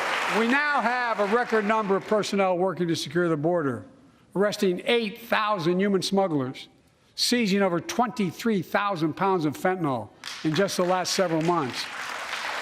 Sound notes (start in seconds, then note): 0.0 applause